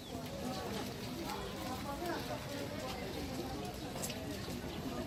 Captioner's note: chatter